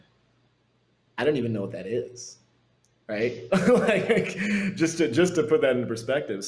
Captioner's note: laughs